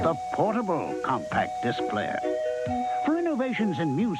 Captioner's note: voiceover